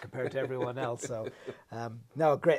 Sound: laughs

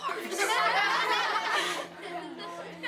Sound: loud laughing

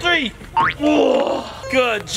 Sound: grunts

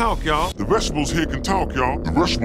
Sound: pitched down voice; pitched lower voice

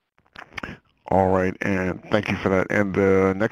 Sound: voiceover

